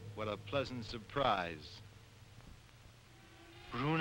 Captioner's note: none